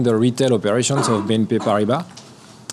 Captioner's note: speaks a foreign language